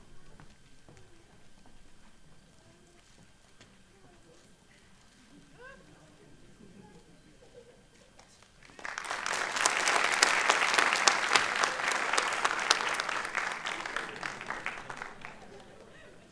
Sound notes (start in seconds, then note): 8.5 applause